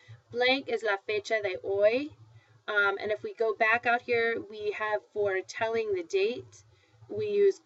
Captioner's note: foreign language